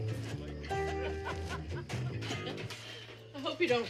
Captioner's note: laughs echo distantly